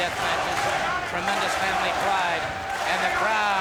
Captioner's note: audience chanting